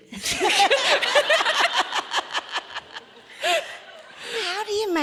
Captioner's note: audience laughing